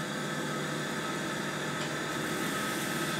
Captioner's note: whirring of a machine